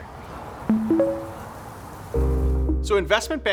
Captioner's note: chiming